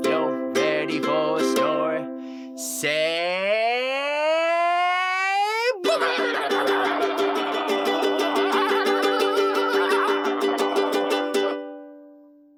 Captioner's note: silly noises